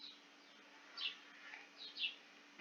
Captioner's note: chirp